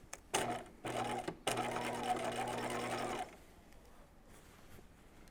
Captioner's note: sewing machine whirring